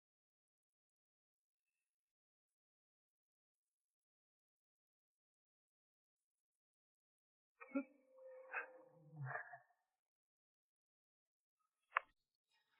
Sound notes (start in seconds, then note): 8.2 giggling